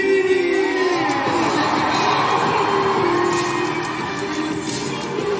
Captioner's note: crowd cheering, screaming